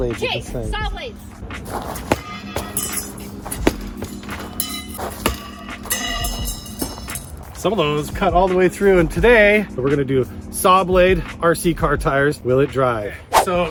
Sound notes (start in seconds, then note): 1.6 saw blades clanking